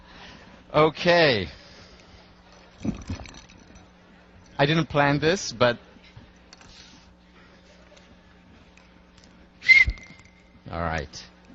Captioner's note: blows a whistle